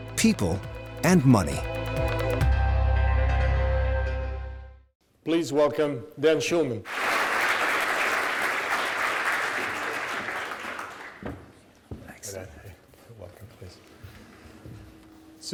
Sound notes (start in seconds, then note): 6.8 audience clapping